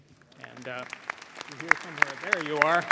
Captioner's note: audience applauding